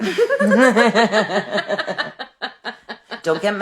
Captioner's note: laughing